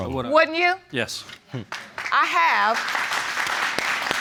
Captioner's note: audience applauding